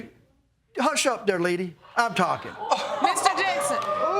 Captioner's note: audience gasp